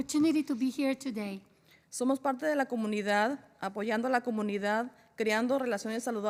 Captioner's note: spanish